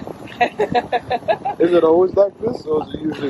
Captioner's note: laughs